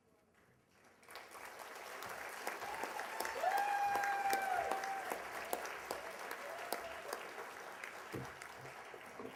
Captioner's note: applause and cheers